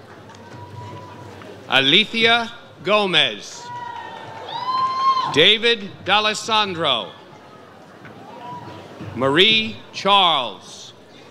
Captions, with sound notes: Alethea Gomez. (audience cheers) David D'Alessandro. Marie Charles.